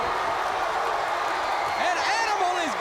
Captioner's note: crowd cheering